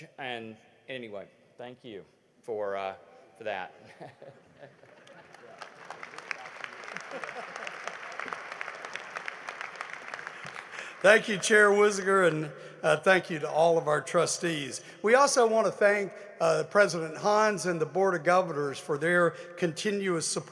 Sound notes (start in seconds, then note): 6.7 laughter; 8.2 applause